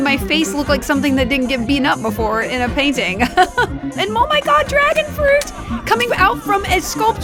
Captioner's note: laughs